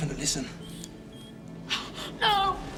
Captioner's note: squeaking